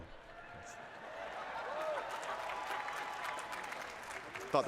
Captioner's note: laughter